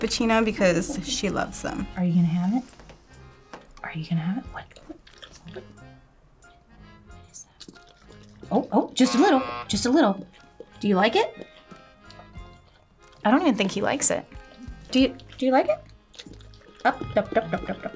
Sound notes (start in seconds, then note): 9.0 buzzer